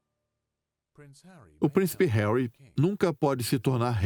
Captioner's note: voiceover